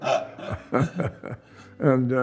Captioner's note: both laughing